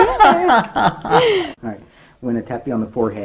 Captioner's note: laughs